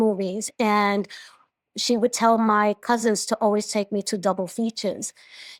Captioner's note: none